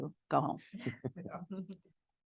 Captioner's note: participants laugh